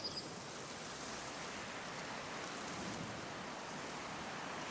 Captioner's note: wind blows